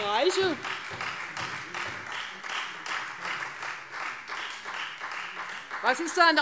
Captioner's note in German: Beifall Freie Demokraten und vereinzelt SPD